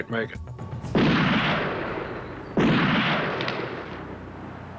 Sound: gunfire

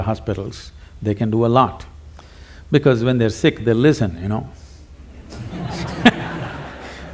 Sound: laughter; Sadhguru Laughs

